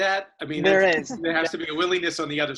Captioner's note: laughs